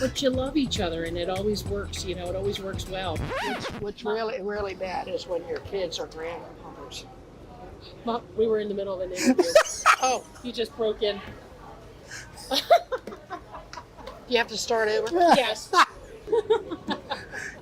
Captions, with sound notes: but you love each other, and it always works. It always works well. - What's really bad is when your kids or grandkids... - Mom, we were in the middle of an interview. (laughs) You just broke in. - Do you have to start over? - Yes.